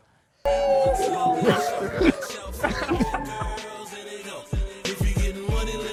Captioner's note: crowd cheering, yelling; rap music